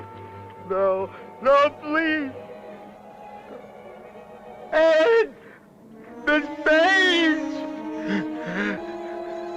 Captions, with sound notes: [ YELLING ] No, no please! Ed, Miss Page! [ TENSE MUSIC ]